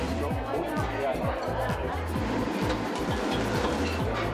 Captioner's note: patrons chattering